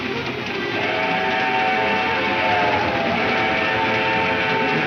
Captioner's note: train horn blares